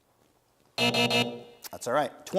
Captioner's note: buzzer sounds